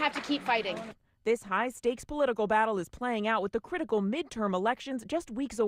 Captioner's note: cheers